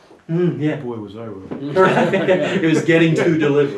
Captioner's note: laughter